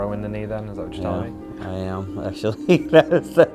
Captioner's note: laughing